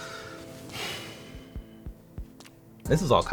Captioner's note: sighs